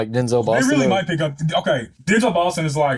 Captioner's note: laughs